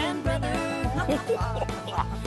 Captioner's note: laughing